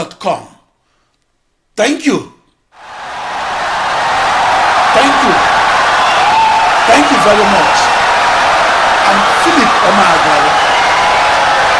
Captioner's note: wild applause and cheering for 17 seconds